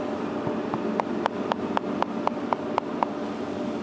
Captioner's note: machine noise in the background